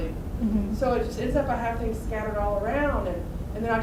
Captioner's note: voiceover